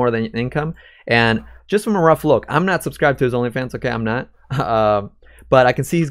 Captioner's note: laughs